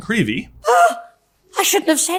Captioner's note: Dobby gasping